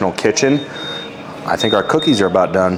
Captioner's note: oven beeping